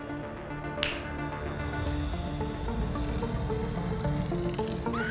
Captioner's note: snaps; screams